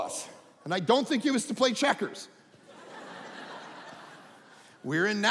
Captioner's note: audience laughing